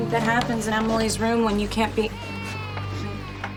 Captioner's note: Emily crying